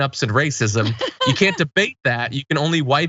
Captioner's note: laugh